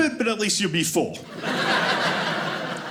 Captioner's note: audience laughing